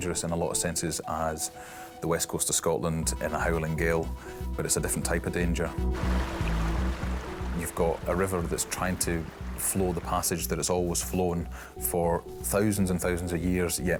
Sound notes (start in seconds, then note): 5.6 water splashes